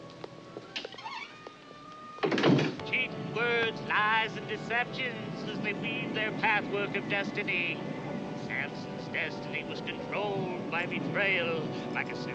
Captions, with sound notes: [door creaks closed] [Radio voice] ...cheating words, lies, and deceptions, as they weave their patchwork of destiny Samson's destiny was controlled by betrayal.